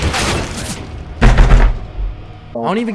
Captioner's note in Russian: Тук тук